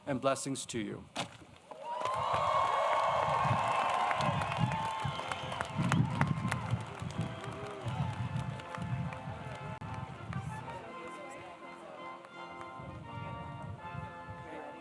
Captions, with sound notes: and blessings to you. [ Cheers and applause ]